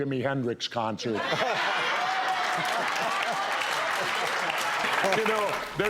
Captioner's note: audience laughing and clapping